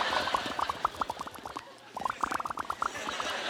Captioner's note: laughing; imitating bubbling; laughing